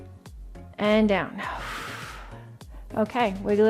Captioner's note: exhales